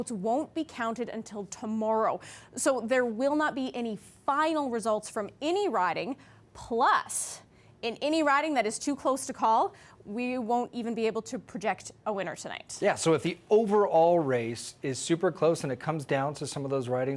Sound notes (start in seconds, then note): none